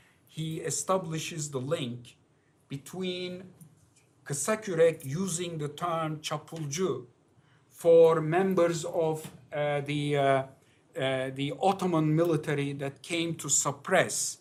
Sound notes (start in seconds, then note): 6.2 non-english